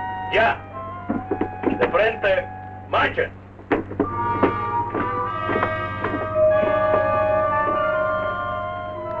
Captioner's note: Colonel Cabeza speaking in Spanish